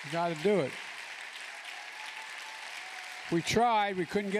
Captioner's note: applause